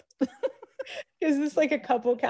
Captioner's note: laughs